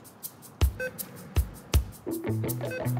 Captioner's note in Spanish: Bip